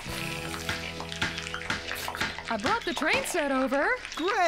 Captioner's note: hammer Pounding